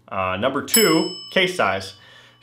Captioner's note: bell rings